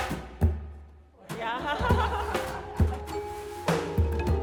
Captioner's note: laughs; gentle upbeat music